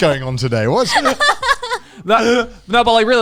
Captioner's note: laughing